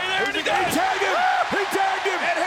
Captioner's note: audience cheers